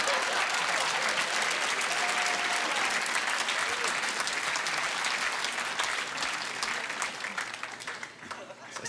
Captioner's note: laughter and applause